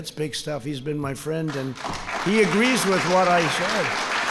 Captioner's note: applause